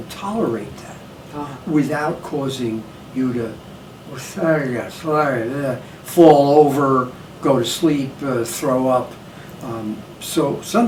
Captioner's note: slurring words